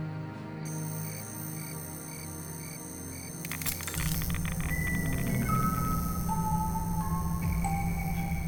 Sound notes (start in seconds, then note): 0.7 electric buzzing; 4.8 toy playing music